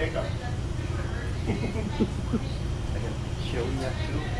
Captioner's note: laughing